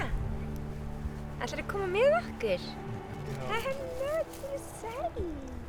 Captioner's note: speaks in a foreign language